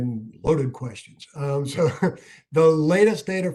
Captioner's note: laughter